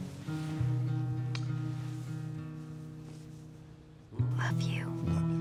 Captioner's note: gentle smooch